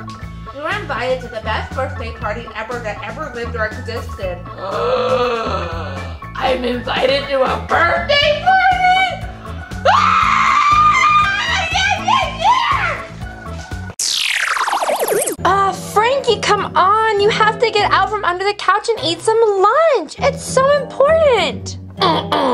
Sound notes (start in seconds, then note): 4.5 gasps; 9.8 screams